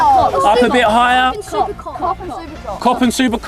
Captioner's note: multiple children chattering